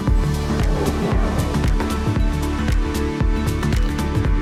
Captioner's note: air whooshing